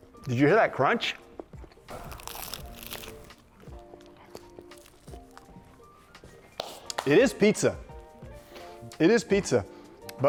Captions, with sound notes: Did you hear that crunch? (crust crunching) (gentle music continues) It is pizza. It is pizza.